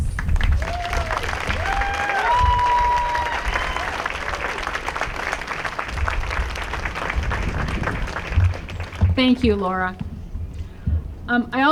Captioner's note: applause